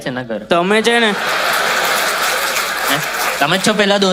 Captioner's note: crowd applauding